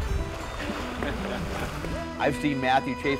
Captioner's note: laughter